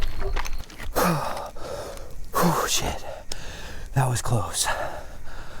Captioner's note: footsteps crunching; insects chittering; panting